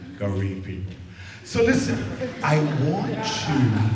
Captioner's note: laughter